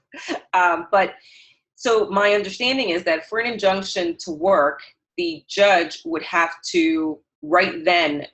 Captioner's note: chuckle